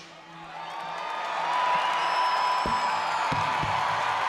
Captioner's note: crowd cheering